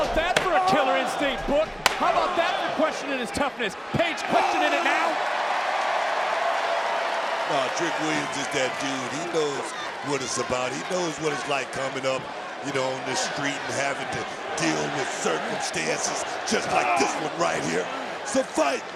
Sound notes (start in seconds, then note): 5.6 crowd cheers